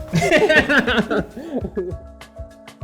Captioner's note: mellow music; laughs